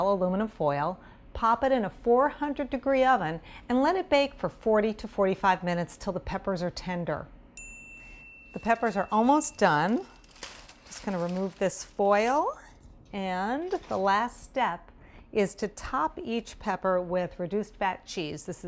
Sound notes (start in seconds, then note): 7.6 dinging sound